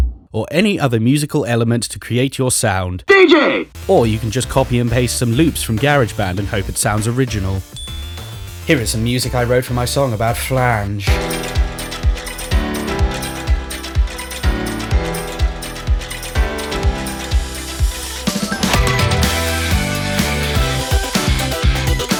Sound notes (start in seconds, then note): 2.9 plays DJ sound